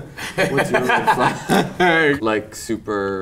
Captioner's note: group laughs